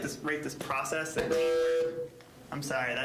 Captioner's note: mic feedback